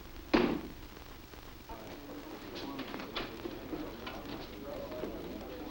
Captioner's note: background chatter